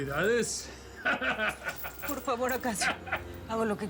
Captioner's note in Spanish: risas